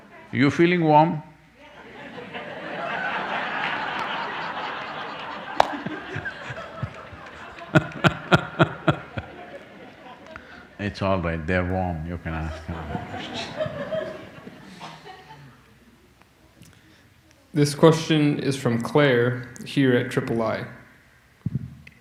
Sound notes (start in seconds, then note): 4.1 laughter; 6.1 laughs; 14.7 laughter